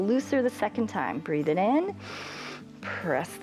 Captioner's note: inhales